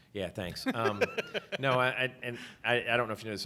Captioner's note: laughs